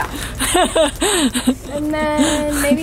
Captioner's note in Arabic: ضحك